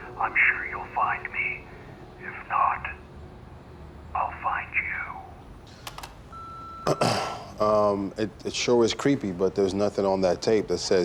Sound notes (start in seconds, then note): 5.4 clicks and beeps; 6.8 clears throat